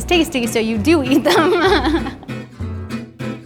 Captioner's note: laughing; upbeat guitar music